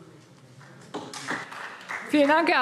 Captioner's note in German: Beifall SPD